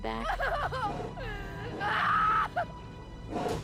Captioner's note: screaming